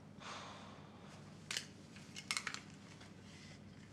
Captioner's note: Isaac sighs